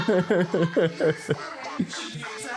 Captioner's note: laughing